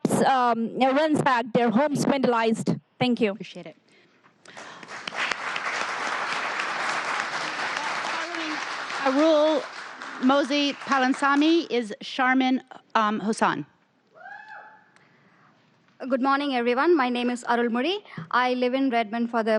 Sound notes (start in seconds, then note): 8.9 applause